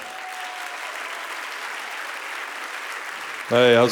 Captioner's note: audience applauding